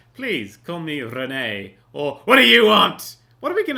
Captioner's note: angry voice